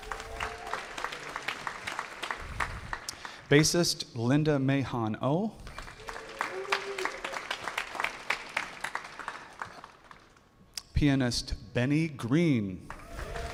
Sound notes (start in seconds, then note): 0.0 audience applauding; 5.6 audience applauding; 12.8 audience cheering and applauding